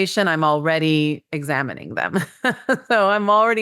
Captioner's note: laughs